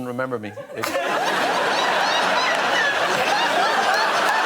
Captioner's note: laughter